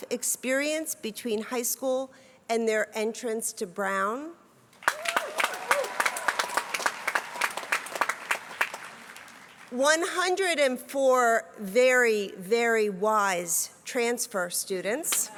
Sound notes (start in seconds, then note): 4.8 applause; 15.1 applause